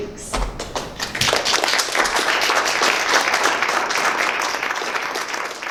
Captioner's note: applause